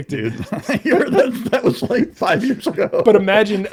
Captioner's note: laughing